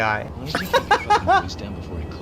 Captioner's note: laughs